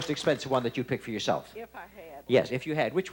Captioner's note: none